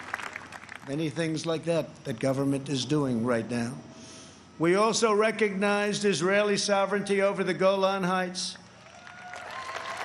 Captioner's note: applause